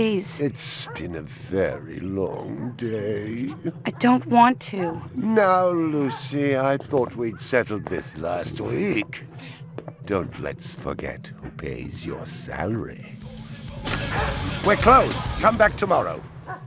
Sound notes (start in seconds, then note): 13.8 doorbell jingles